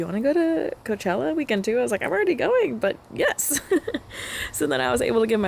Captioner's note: laughter